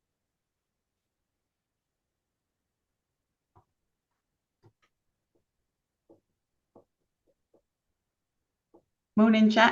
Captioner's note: silence